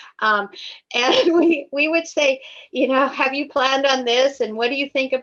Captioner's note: laughs